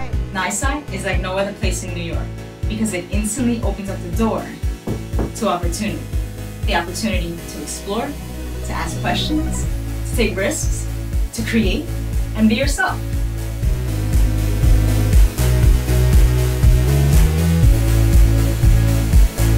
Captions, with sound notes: - NYSCI is like no other place in New York because it instantly opens up the door (knuckles rapping) to opportunity. The opportunity to explore, to ask questions, to take risks, to create, and be yourself. (energetic music)